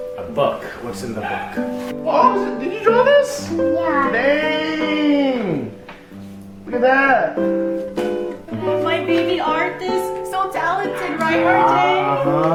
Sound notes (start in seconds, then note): 1.9 gasp